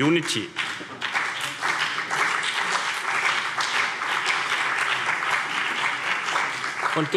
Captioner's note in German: Beifall CDU und BÜNDNIS 90/DIE GRÜNEN